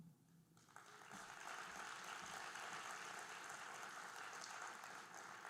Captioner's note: audience applauding